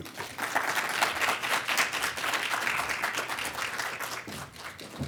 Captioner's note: audience clapping